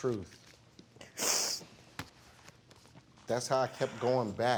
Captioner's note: sniffling